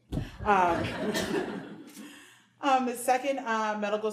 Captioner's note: audience laughing